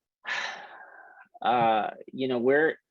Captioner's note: deep breath